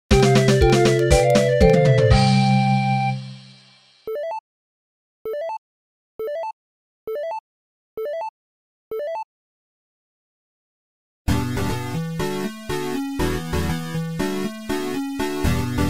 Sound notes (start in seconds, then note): 4.0 notifications - level up + items